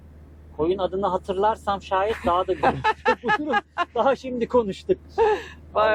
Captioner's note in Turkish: kahkaha